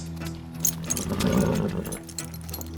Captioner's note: horse blusters